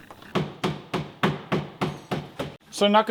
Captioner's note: repeated hammer banging